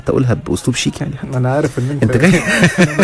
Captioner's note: sarcasm!